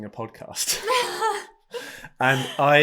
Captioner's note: both laugh